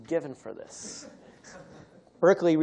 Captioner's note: laughter